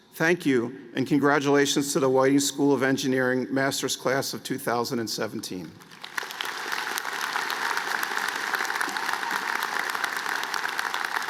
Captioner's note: applause